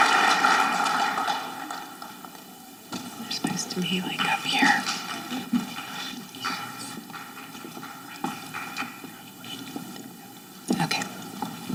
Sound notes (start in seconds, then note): 3.7 faculty speaking faintly